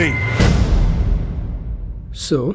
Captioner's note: loud Boom